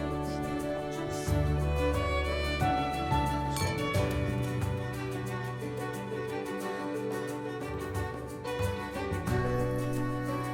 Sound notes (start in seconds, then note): 0.1 gentle orchestral music continues; 3.5 glasses clinking